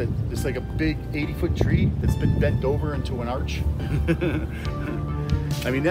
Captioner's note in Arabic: يضحك بصوت عالٍ